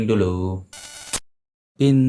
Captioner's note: interference sound